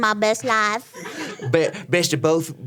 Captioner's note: audience laughing